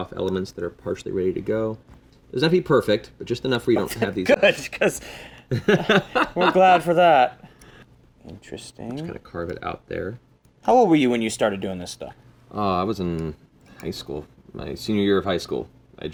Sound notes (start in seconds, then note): 8.2 laughs